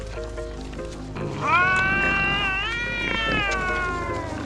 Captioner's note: cat yowling